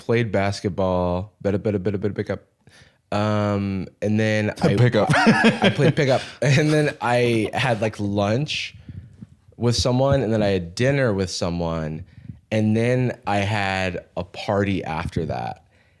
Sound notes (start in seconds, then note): 4.6 laughs